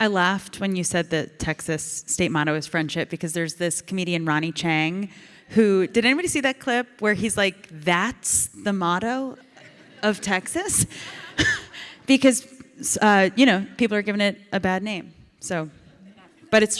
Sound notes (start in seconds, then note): 11.0 audience and Ilana laugh